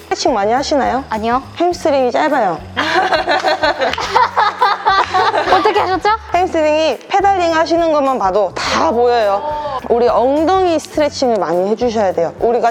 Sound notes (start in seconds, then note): 2.8 laughter